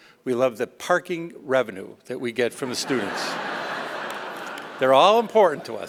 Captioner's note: laughter